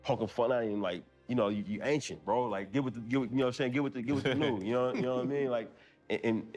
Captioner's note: chuckle